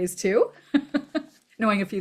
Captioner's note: laughs